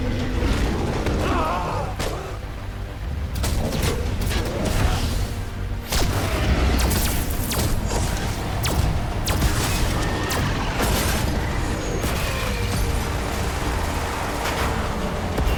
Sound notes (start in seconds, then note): 1.0 creature roaring; 4.4 creature roaring; 5.8 lasers blasting